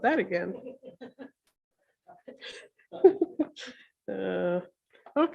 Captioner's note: deputy Mayor laughs